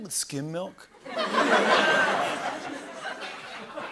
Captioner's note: laughter